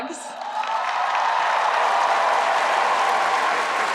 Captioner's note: crowd cheering